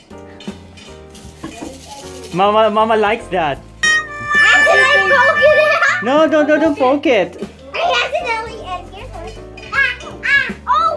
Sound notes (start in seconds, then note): 1.5 box rattles again